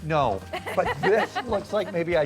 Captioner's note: laughing